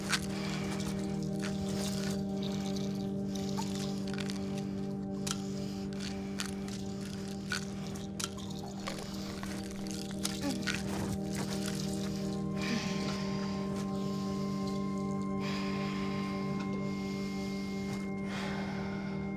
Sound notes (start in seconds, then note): 0.3 pills rattling over quietly ominous electronic music; 12.6 Ashley sighing